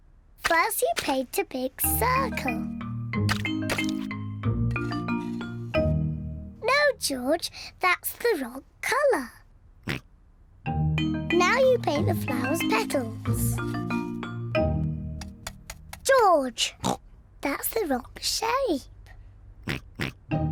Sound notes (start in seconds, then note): 9.8 snorts; 16.8 snorts; 19.6 oinks